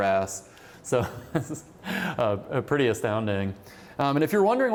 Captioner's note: laughter